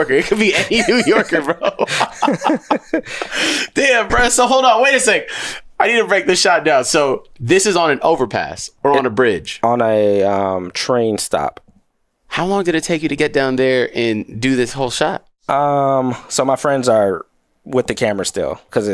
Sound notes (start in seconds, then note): 2.3 both laughing